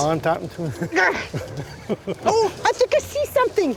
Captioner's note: grunting